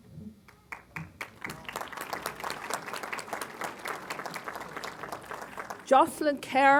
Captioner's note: applause